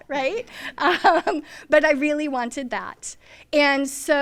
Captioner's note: laughs